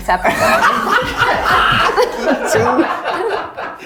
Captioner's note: all laughing